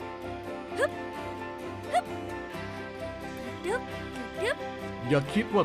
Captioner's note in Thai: เสียงฮึบ ฮึบของซันนี่